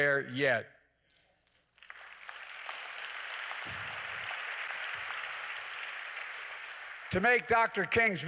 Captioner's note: applause